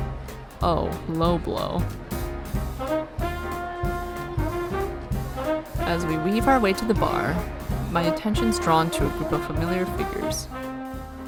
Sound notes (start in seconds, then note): none